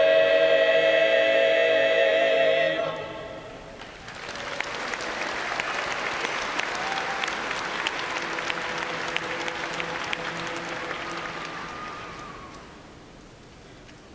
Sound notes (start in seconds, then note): 8.2 cheers and applause